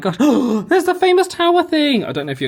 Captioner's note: gasping